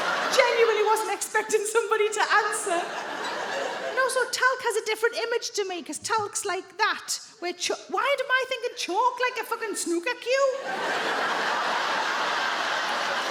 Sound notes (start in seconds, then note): 10.6 audience laughs